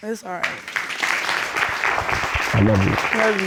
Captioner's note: applause